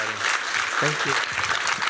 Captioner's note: applause